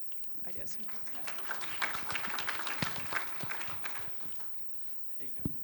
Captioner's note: applause